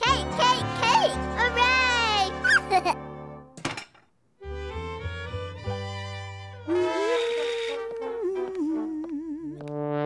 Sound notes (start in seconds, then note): 2.0 mom humming